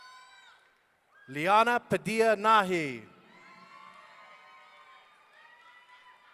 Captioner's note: audience cheering